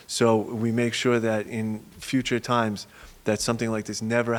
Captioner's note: none